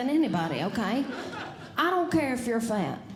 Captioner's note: audience Laughing